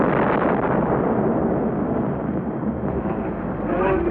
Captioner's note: explosion